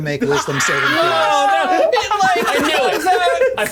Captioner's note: players shouting and laughing